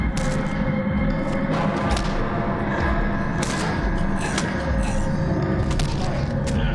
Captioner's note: ominous music; blood splatters